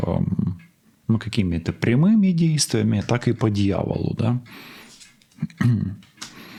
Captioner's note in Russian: откашливается